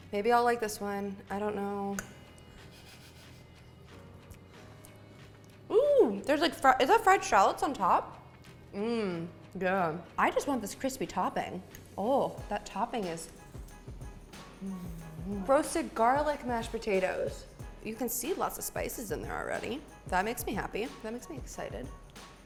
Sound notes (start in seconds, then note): 3.1 laughs